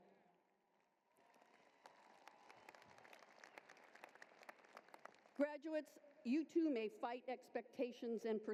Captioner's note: applause